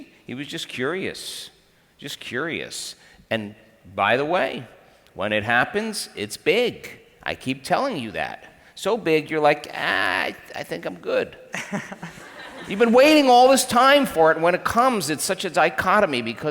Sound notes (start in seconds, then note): 11.5 laughs; 11.6 crowd laughs